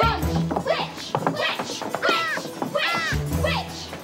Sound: <i> chanting</i>

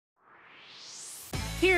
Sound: swoosh

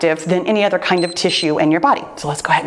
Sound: timer beeps

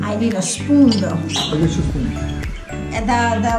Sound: chattering

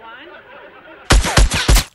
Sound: audience laughs; air whooshing

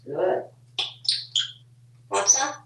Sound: lip smacking sound

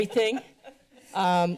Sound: laughter

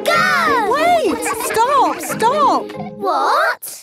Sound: all laughing

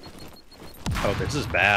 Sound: explosion

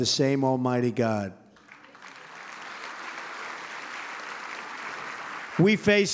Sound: applause

